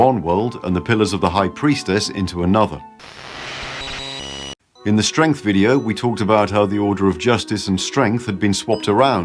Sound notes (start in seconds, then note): 3.0 static sound